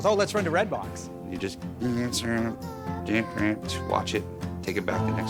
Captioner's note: imitates buzzing